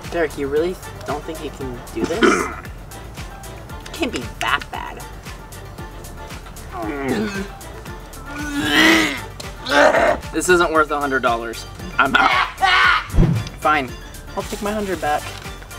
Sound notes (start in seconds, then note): 12.1 coughing